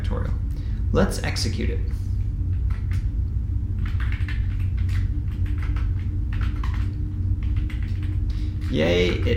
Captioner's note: keyboard typing sound